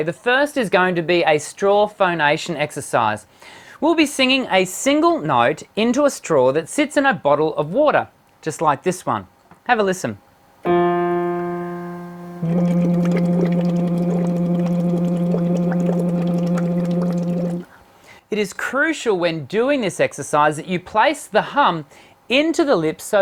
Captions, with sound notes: The first is going to be a straw phonation exercise. We'll be singing a single note into a straw that sits in a bottle of water, just like this one. Have a listen. (hits a single piano key) (humming) (blowing bubbles) It is crucial when doing this exercise that you place the hum into the lips